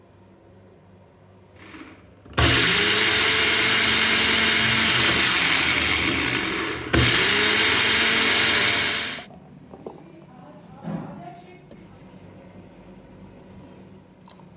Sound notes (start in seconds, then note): 1.6 blender whirring